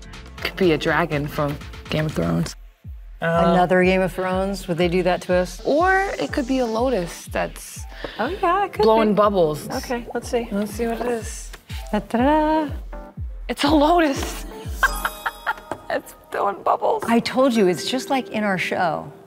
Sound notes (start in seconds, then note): 11.4 jodie mimicking fanfare; 14.7 laughs